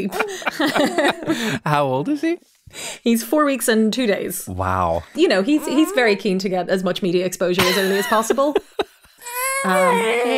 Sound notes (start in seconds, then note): 0.0 pair laughing; 7.6 laughing; 9.2 crying